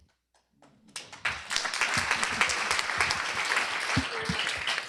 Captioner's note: applause